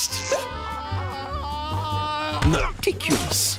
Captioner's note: screaming